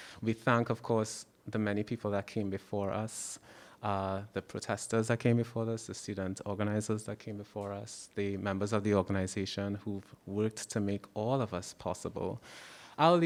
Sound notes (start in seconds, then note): none